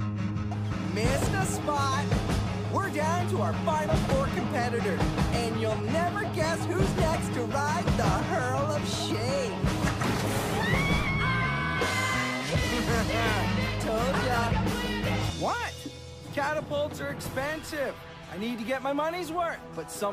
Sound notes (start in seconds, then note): 10.4 scream; 12.7 evil laugh